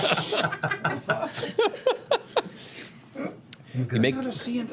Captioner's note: laughter